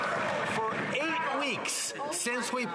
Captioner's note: some Applause